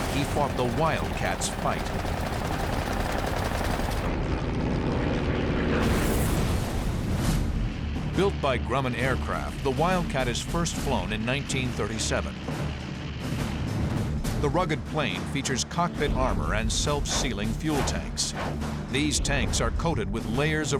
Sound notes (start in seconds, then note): 2.0 gunshots; 5.2 explosion